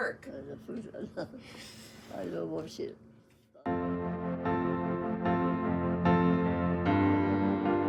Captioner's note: laughs